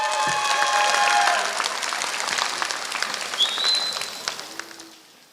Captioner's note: applause